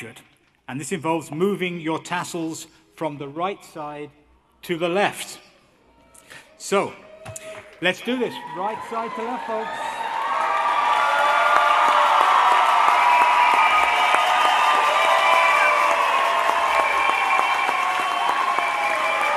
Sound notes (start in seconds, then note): 11.0 cheering